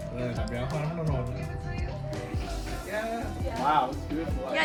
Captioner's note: speaks in a foreign language